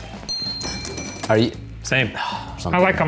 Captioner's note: bells ring